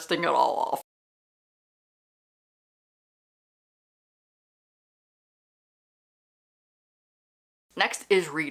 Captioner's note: no audio